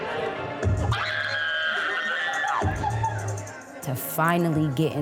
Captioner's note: screaming happily